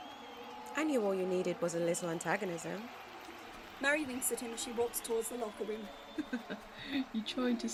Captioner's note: James laughs